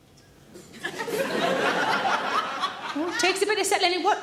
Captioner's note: audience laughs